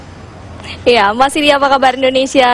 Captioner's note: non-english speech